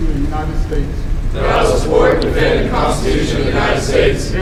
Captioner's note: commissionees repeat